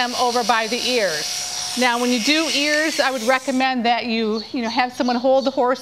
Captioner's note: clippers stop buzzing